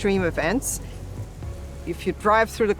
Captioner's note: rain splashing